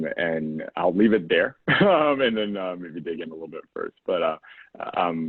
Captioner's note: laugh